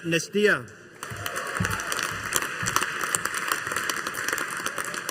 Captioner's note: audience applauding